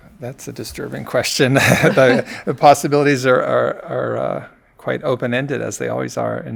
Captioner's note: laughs